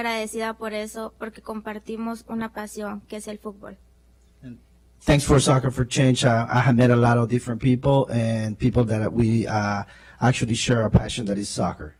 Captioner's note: spanish